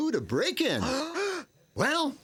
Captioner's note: gasping